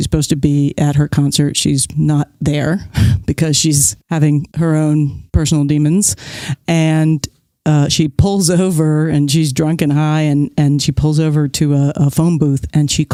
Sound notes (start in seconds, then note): none